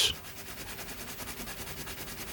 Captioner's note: scraping noises